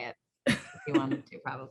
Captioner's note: laughs